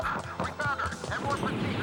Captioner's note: officer On Radio